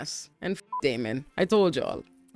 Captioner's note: beep